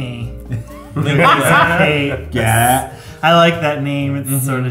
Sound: laughs

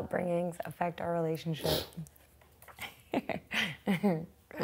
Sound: laughs

